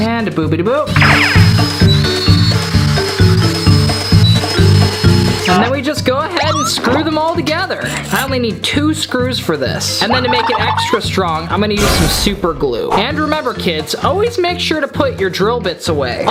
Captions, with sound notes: And a boopity boop. (drilling) (upbeat music) And then we just go ahead and screw them all together. I only need two screws for this. And then to make it extra strong, I'm going to use some super glue. And remember kids, always make sure to put your drill bits away.